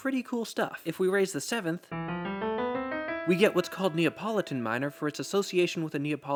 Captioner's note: bang